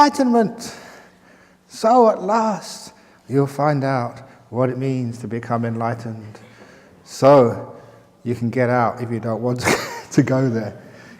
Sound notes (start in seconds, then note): 9.6 chuckle